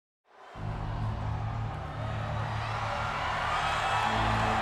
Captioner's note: audience cheering